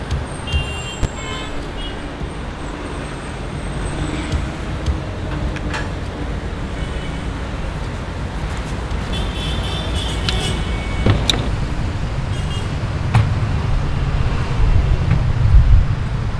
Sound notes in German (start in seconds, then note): 0.6 Autohupen